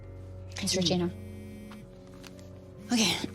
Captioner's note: clears s throat